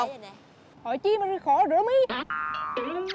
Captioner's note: she answers in Vietnamese Central's accent